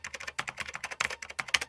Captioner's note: keyboard clicking